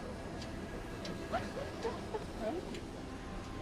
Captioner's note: cries